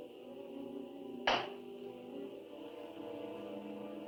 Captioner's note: hands clapping